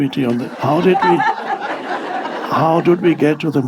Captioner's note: audience laughs